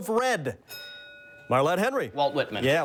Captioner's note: bell dings